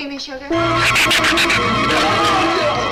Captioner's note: dramatic orchestral music; shrew screeches; Marlowe screams